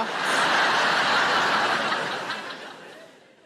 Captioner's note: audience laughing